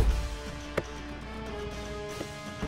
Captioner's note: Door opens